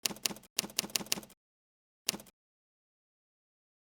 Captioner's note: typewriter clacking